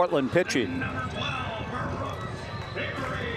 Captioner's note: stadium announcement